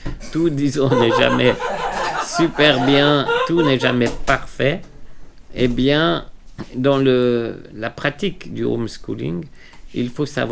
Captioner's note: laughter